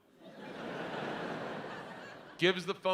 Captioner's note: audience laughs